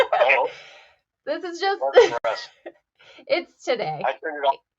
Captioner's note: chuckles